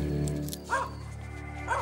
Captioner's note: dog barking